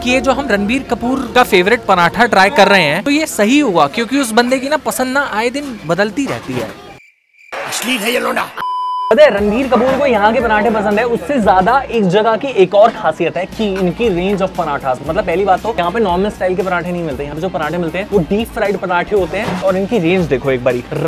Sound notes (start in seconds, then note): 8.4 beep